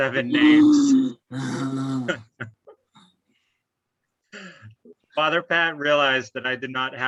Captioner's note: both chuckle audibly